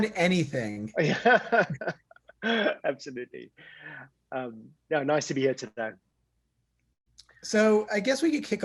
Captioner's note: laugh